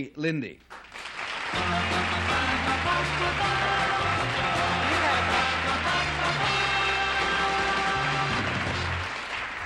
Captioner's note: applause